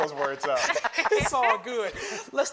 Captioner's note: everybody laughing